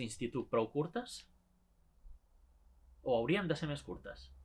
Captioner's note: dramatic pause